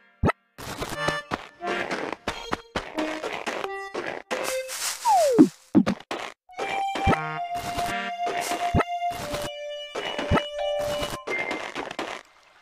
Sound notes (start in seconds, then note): 0.6 footsteps; 6.0 footsteps; 9.9 footsteps